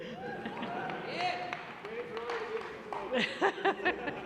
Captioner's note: whoops and cheers; laughter